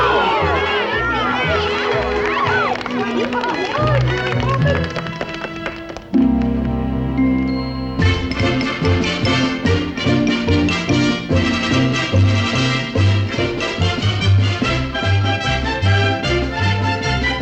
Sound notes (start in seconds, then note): 1.2 applause